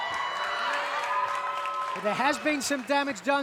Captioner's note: crowd cheers